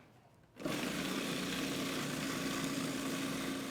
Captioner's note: blender sounds